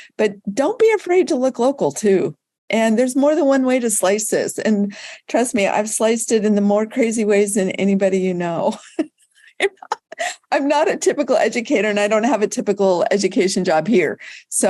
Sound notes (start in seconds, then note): 9.5 laughing